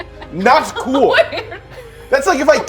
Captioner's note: laughter